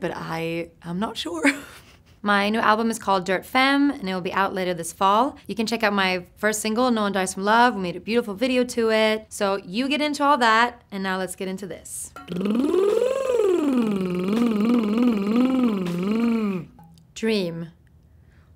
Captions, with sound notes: but I'm not sure. My new album is called "Dirt Femme," and it'll be out later this fall. You can check out my first single, "No One Dies From Love". We made a beautiful video to it. So you get into all that. And now let's get into this. (whirring noises) Dream.